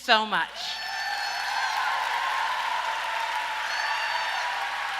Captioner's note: audience applauds and cheers